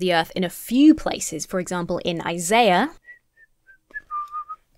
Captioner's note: whistling